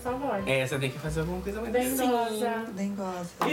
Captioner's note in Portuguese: com voz feminina; voz feminina